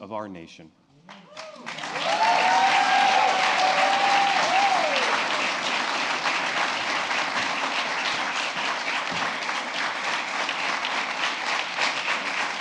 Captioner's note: applause